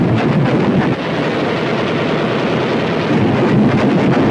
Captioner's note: guns firing